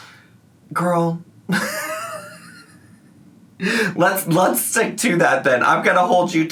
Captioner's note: laughs